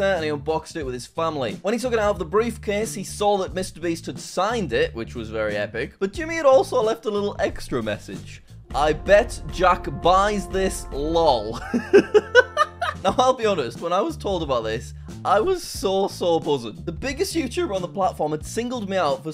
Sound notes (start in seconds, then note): 11.5 chuckles